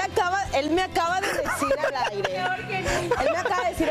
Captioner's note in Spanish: risas